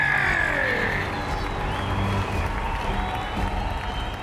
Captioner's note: fans cheering